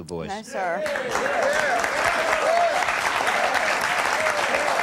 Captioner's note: audience applauding